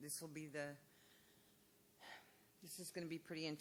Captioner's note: sighs